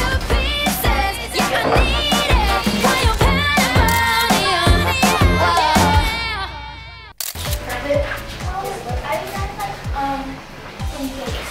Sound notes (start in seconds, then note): 0.0 upbeat pop music; 7.2 camera shutter clicks